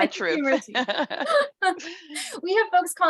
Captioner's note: laughing